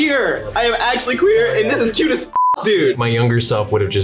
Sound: beeps

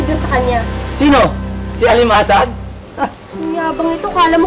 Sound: scoffs

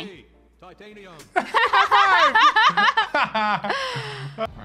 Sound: laughing

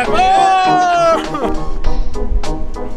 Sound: screaming

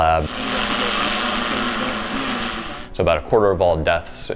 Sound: drone buzzing

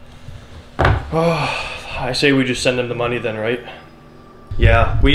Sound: sighs

